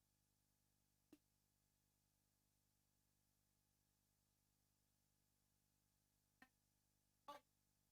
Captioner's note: no audio